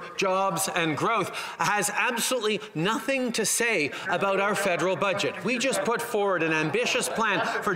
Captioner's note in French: voix de l'interprète